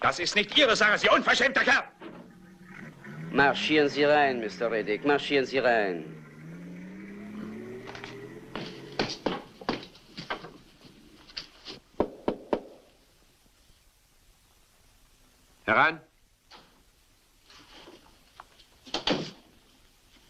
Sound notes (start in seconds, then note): 12.0 knocking